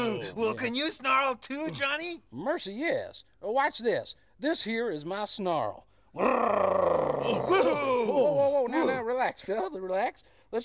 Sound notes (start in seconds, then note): 6.1 snarling